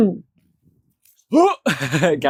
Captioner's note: laughter